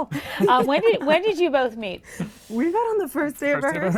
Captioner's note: laughing